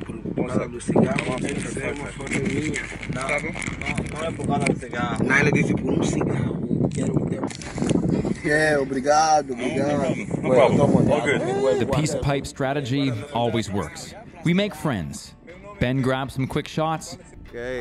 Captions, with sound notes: (speaking Portuguese) (camera rustling) (speaking Portuguese) The peace pipe strategy always works. We make friends. Ben grabs some quick shots,